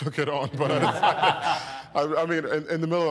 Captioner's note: all chuckling